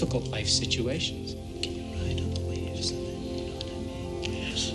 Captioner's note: whispering